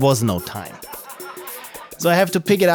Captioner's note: laughter